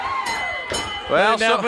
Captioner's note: bell rings